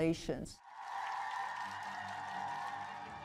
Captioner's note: cheers